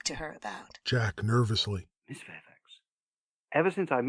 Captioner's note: nervously